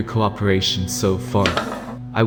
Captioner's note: chair Moving